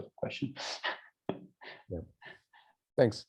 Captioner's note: laughs